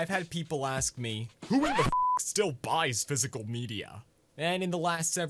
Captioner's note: mockingly